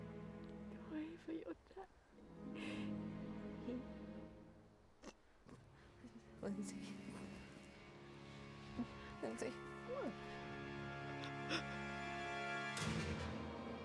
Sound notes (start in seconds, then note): 5.0 gagging